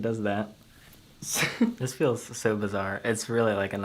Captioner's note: chuckles